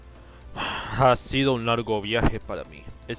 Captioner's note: sigh